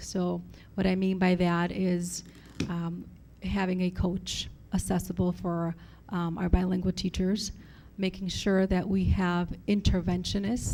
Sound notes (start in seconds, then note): none